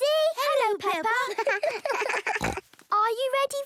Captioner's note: laughter; snorting